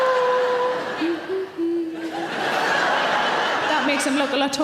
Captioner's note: audience laughing; humming; audience laughing